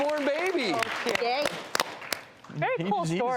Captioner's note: audience applauding